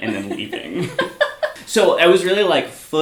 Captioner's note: both laugh